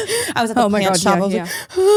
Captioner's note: gasps